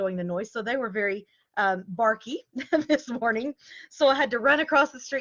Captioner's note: laughter